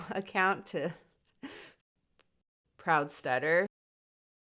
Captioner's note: chuckles